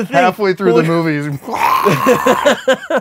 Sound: ripping open screech

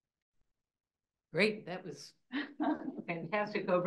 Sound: laughs

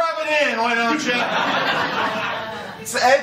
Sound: laughter

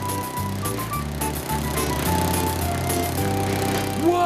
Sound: motor Revving

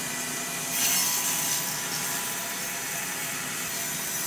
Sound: saw buzzes

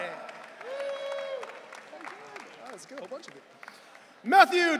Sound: audience cheering

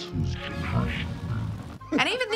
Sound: distorted voice

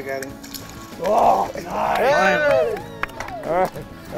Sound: voiceover; cheering

